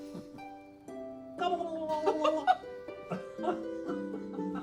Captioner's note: Brian gobbling; Claire laughing playfully